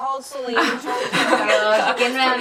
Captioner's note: laughs